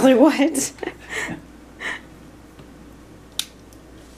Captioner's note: laughs